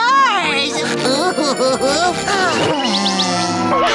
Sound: sighing

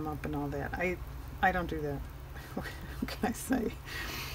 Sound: laughs

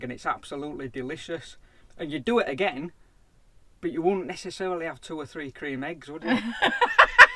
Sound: laughter

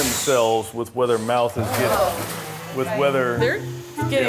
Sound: alligators hissing

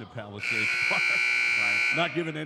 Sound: buzzer dings

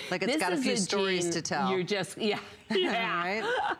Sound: laughter

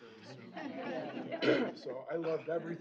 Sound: laughter

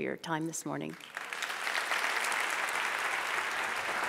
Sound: applause

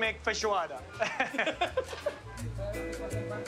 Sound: both laugh

